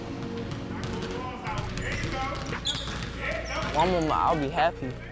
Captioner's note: coach cheering